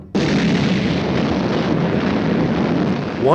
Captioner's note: boom